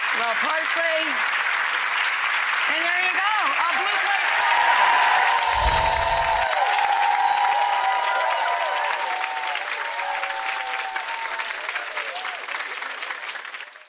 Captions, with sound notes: A little parsley. And there you go. A blue plate special. (applause)